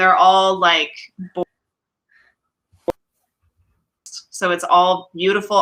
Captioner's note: audio cuts off